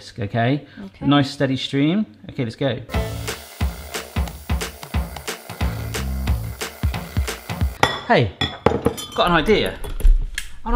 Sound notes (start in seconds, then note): 2.9 blender whirs; 2.9 playful music